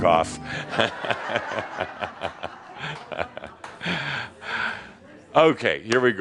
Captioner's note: laughter